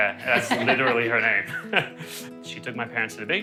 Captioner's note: laughs